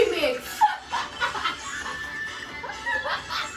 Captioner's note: laughs